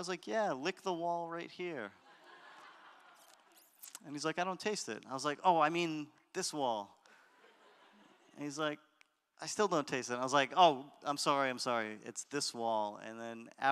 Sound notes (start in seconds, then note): 2.0 audience laughter; 7.4 audience laughter